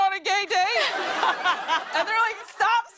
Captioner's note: laughter